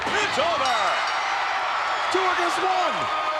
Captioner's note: audience cheering